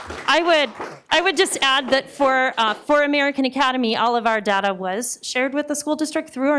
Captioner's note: applause